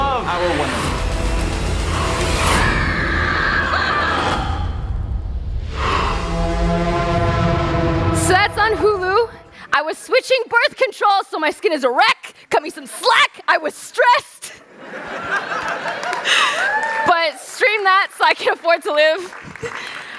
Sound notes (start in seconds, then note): 2.6 screams; 5.8 dramatic Music; 14.5 laughter; 19.0 laughter; 19.6 applause